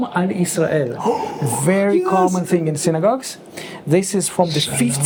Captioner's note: gasps